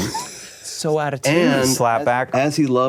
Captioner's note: laughing